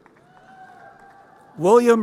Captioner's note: crowd cheering